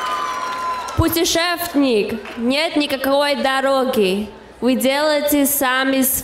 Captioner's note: speaking in foreign language